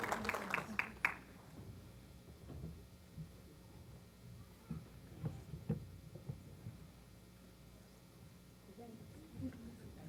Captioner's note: applause